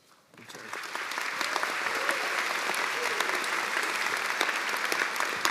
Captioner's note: cheers and applause